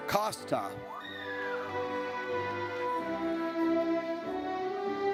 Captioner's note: audience cheers